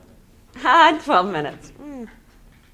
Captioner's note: laughs